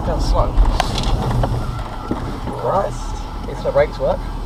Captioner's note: hard braking sound